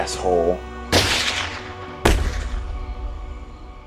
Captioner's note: two gunshots